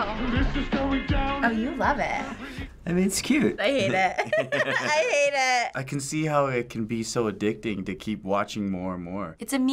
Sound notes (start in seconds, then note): 3.7 giggles